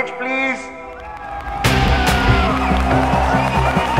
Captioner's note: All cheering